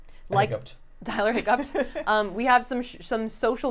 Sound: laughing

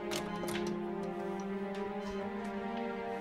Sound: ECG beeping in the background

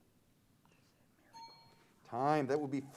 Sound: bell pings

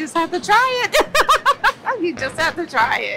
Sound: laughs

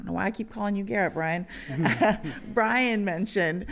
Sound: laughter

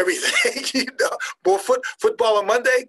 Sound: laughing

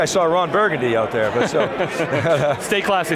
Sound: laughter

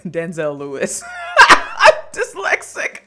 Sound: laughter

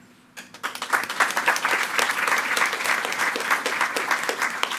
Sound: attendees clapping

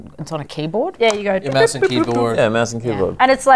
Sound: imitates beeping sounds

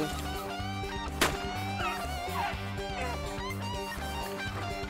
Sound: country rock music; gun fires

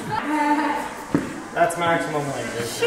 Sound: laughing

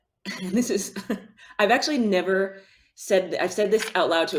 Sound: chuckles

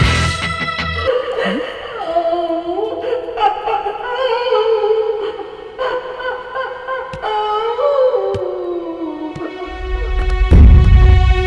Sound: screaming

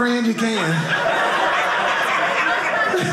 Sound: audience laughing

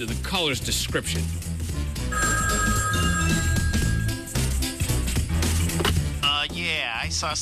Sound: telephone rings

